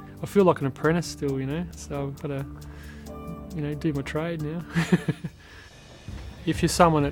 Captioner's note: laughs